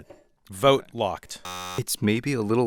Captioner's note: buzzer beeping